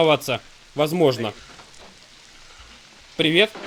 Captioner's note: door opens